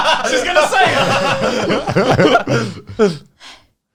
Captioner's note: laughs